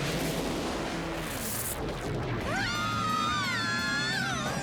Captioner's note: screaming